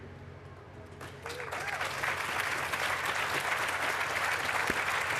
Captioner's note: applause